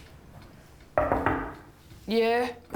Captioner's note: hand rapping